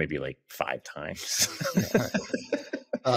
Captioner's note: laughs